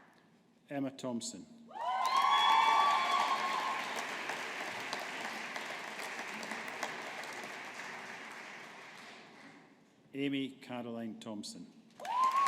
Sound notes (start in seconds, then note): 2.0 audience applauding